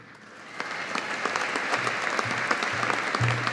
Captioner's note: audience applauding